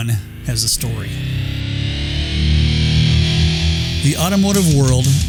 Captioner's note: engine revving